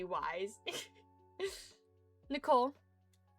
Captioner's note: giggles